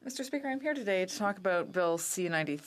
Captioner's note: speaking in French